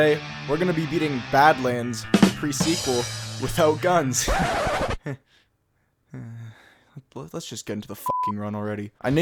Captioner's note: sigh